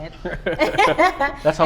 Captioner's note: laughs